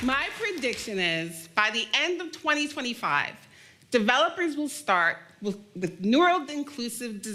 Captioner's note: applause